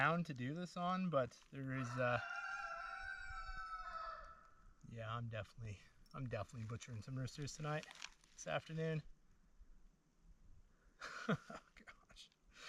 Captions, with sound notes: So I do wish there was flatter, more even ground to do this on, but there is... [Door creaks] Yeah, I'm definitely butchering some roosters tonight, this afternoon.